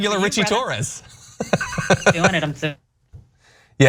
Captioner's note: laugh